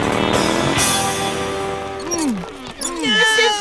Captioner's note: grunting and yelling